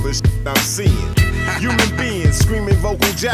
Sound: laughs

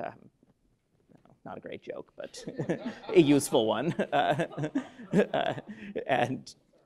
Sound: laughter

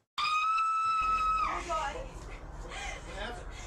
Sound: screams

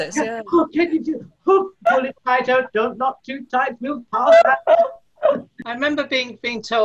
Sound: laughter

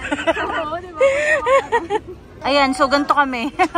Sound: laughter

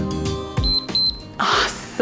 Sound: timer beeps

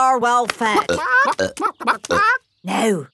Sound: clucking

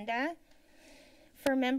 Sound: inhales

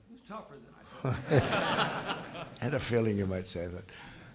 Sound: laughter

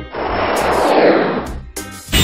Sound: kicking up a wind

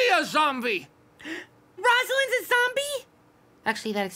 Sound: gasping

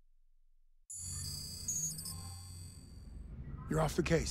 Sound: electronic beeping, trilling

